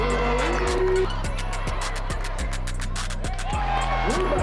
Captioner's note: crowd cheering